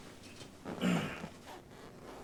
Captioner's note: Joey grunts